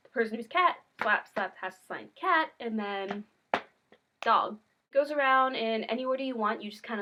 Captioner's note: slap slap